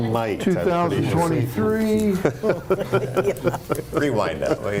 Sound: laughing

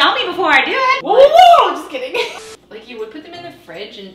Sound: chuckles

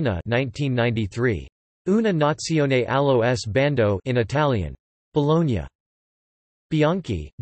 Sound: in Italian

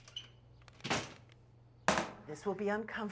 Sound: door closes

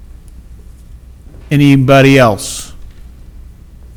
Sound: none

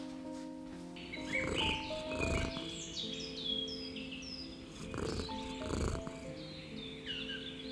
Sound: Sunny purring

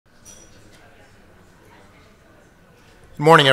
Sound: crowd faintly chattering

